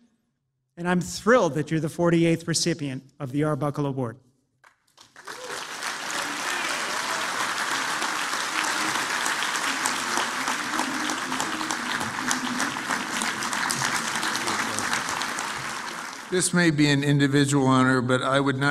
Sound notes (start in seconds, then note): 4.6 applause